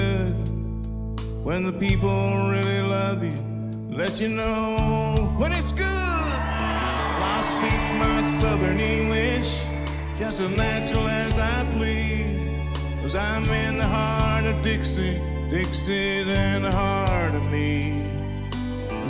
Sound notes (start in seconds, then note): 6.2 crowd cheering